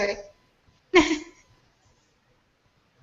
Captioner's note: laughter